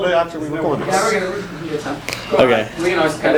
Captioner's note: chatter